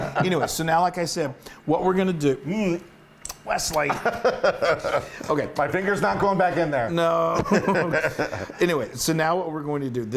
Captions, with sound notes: Anyway, so now, like I said, what we're going to do, Wesley. >> [LAUGH] >> Okay. >> My finger's not going back in there. >> No. >> [LAUGH] >> Anyway, so now what we're going to do.